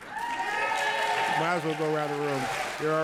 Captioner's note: audience applauds and cheers